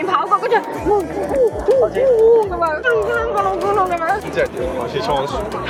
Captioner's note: excited sounds\'97untranslatable